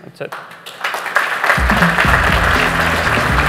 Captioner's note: applause